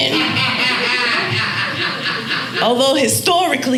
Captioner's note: audience laughing